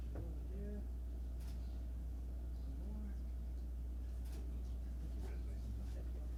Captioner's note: camera clicks